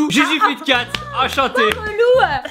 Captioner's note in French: Applaudissements